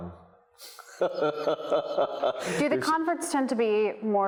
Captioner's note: laughs